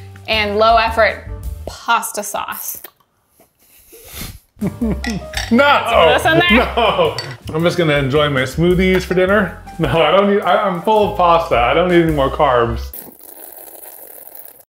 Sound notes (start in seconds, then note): 2.5 straw sucking; 2.6 laughs; 12.8 straws sucking